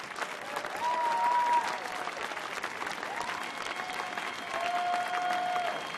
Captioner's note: cheering from the audience